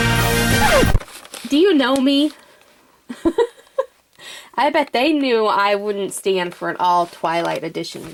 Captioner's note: laughs